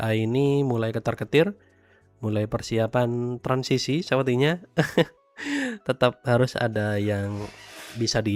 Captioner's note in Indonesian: tertawa